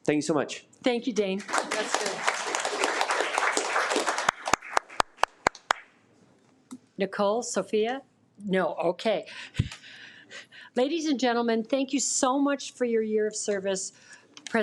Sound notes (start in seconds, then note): 4.1 audience applauding